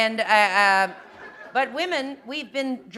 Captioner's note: laughter